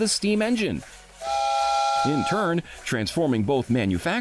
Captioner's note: steam whistle toots